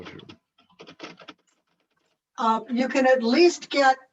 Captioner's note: keyboard clicking